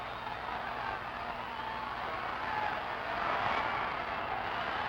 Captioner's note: crowd cheering